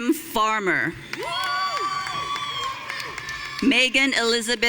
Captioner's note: audience cheering